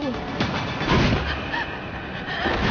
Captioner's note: gasp; ragged horrified breathing